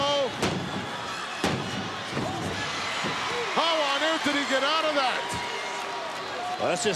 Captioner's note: applause